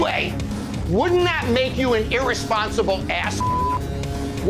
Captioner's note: beep